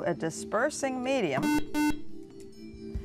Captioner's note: buzzer